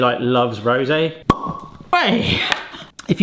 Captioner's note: bottle pops